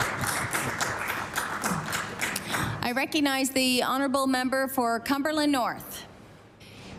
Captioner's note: applause